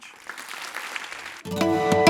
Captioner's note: applause